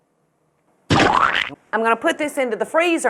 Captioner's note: cartoon splat noise